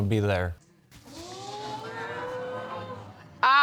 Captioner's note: audience exclaiming